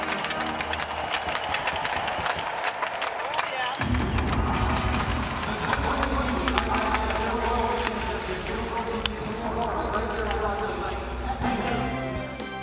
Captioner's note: cheering and Applause